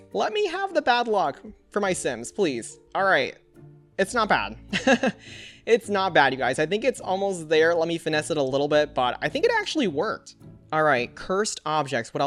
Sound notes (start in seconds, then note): 4.7 laughs